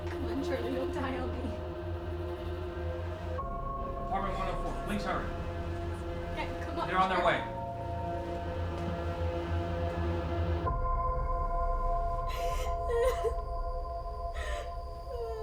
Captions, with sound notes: - Come on, Charlie, don't die on me. - 911, please hurry. They're on their way. (sobbing)